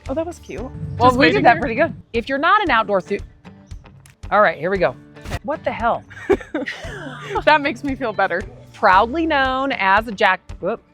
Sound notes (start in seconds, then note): 6.1 both chuckle